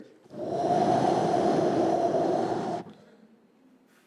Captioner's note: soft whisper